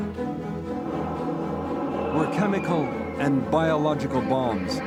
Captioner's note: bombs whistling